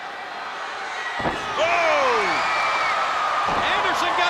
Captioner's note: spectators cheering; Flyin' Brian stomps